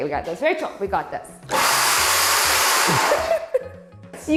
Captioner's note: machine whirring